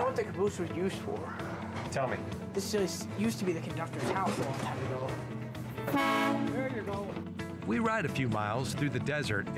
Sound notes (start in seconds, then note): 5.8 train horn honking